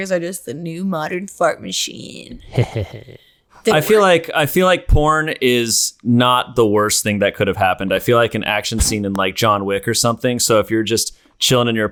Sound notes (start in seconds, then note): 2.4 mischievous laughter